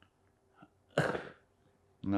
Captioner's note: coughing